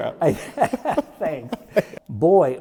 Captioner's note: laughs